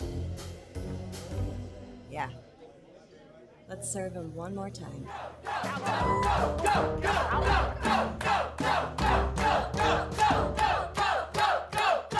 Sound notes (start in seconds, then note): 5.0 diners chanting